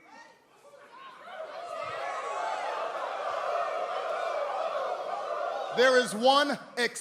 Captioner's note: crowd chatter